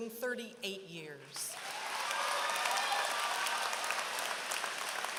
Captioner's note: applause